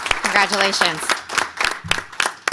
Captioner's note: applause